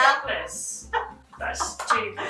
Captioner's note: laughing